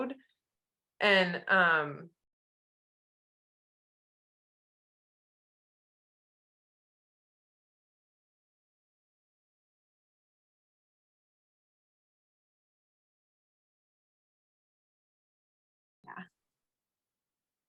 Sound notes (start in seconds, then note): 2.0 pause during signing